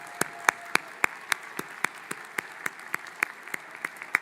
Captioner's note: applause; cheering